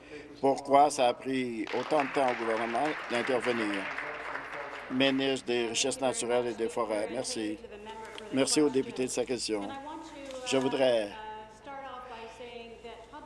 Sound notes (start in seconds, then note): 7.4 applause